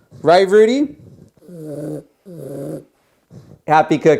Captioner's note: Rudy growls